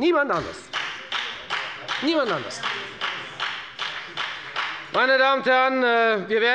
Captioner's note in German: Beifall bei der FDP